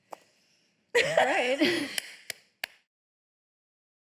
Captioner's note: both laughing